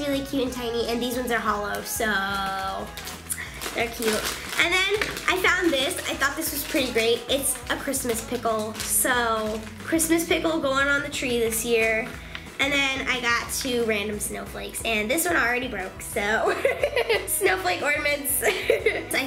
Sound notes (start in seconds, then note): 16.5 laughing